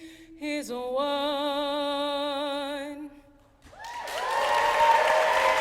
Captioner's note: applause